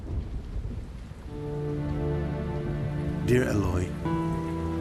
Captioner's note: thunder rumbling